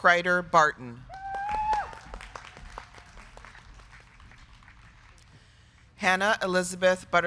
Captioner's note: crowd cheering; crowd clapping